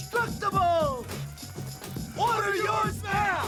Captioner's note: upbeat music continues; bag rattling